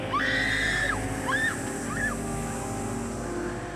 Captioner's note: screaming; snake hissing